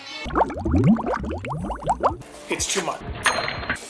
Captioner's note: water burbling; food sizzling